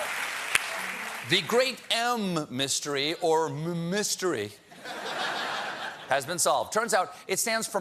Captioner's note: cheers and applause